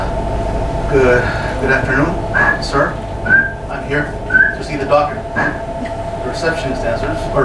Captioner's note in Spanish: silbato